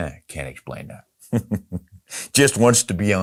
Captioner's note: chuckles